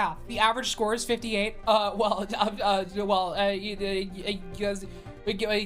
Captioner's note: stammering